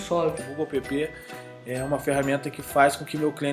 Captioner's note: speaking portuguese